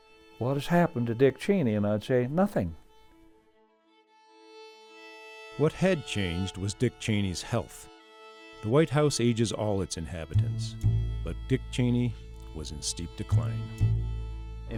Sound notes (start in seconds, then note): 5.5 voiceover; 14.6 voiceover